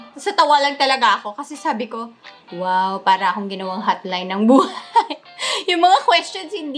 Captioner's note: laugh